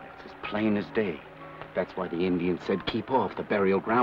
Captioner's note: none